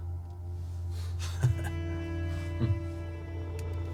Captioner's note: chuckling